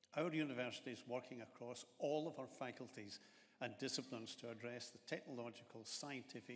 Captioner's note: none